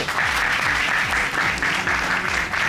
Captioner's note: applause